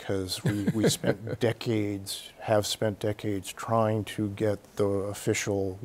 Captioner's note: Bob laughs